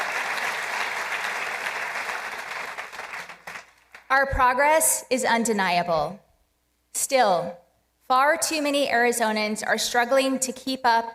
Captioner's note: applause